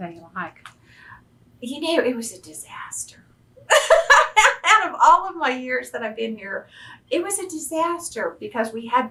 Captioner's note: laughs